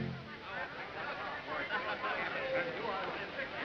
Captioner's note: chatter